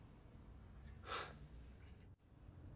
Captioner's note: sighs